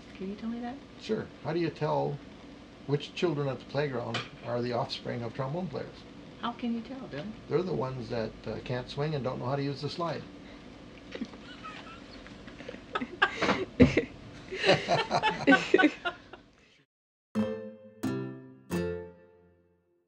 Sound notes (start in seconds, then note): 11.1 laughter; 17.3 lively music